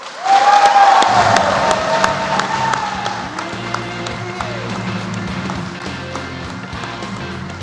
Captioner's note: applause